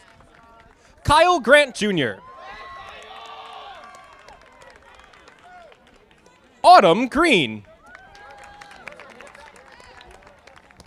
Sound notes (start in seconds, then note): 2.2 audience applauding